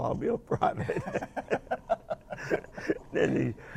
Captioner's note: both laugh